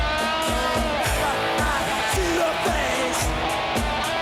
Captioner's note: screams